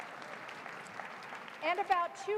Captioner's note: applause